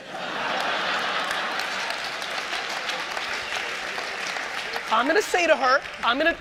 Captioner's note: audience laughter and applause